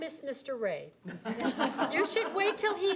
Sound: audience laughing

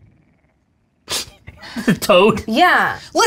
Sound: laughing

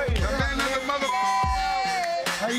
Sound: beep

